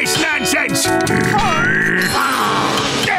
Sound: growling

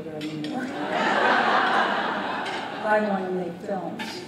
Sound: laughter

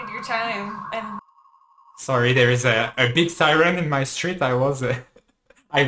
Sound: ambulance noises

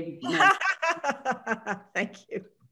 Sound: laughs

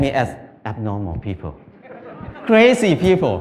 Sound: Smijeh

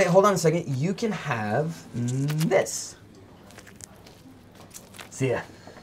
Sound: cheese squelching

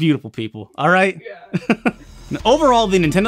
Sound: chuckles

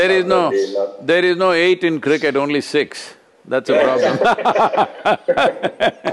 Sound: laughter

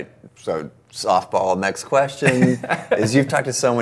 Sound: laughs

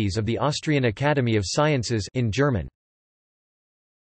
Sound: in German

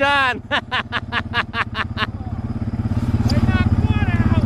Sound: laughing

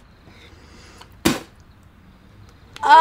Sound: spitting

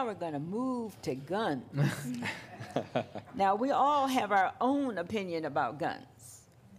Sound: laughter

